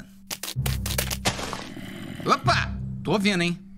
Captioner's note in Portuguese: som de zumbi